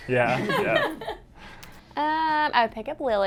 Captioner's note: all laugh